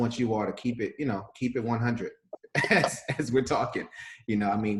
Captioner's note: laughs